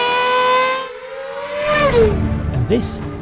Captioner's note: car quickly passing